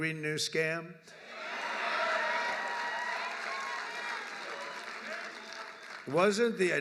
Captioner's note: applause